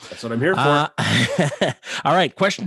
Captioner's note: laughing